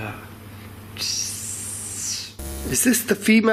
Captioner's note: hissing